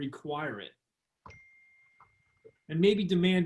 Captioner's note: phone beeps